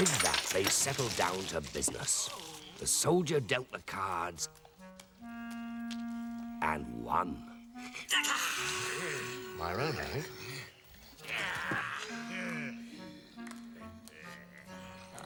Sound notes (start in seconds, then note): 7.8 laughing; 11.3 grunting